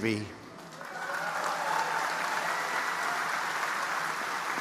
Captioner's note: audience applauding